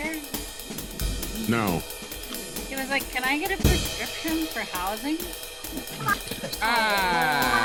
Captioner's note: laughing